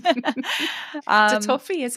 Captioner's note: laughs